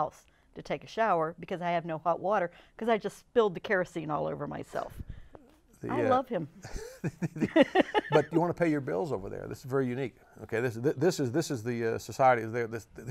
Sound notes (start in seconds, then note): 6.6 laughs